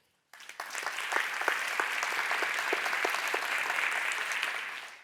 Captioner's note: audience applauds